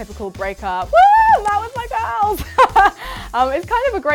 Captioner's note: shouts